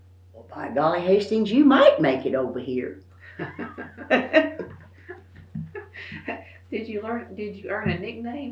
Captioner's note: laughs